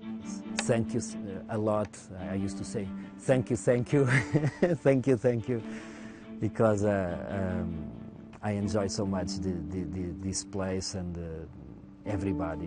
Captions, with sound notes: And thank you a lot. I used to say, "Thank you, thank you." (laughs) Thank you, thank you. Because I enjoy so much this place